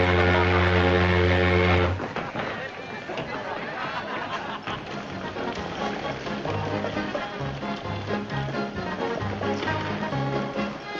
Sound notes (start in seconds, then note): 2.4 people chattering; 7.2 lighthearted music